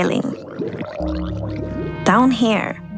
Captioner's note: drowned gurgling